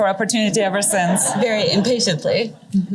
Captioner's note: laughter